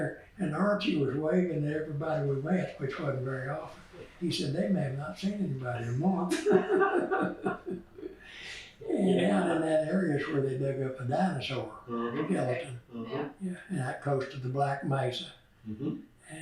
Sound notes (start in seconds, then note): 6.2 laughter